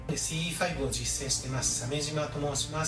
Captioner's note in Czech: hovoří cizím jazykem